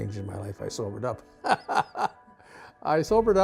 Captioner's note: laughs